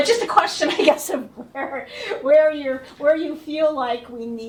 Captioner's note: laughter